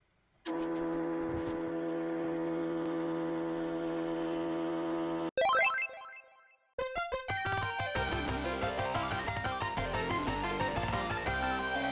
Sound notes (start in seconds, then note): 0.5 printer noise; 5.4 happy bloop